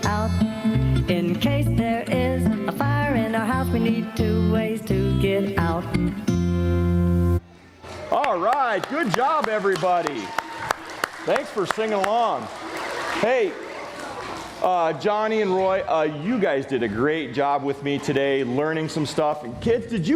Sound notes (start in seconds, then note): 7.9 applause